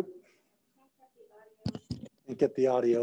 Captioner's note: faintly speaking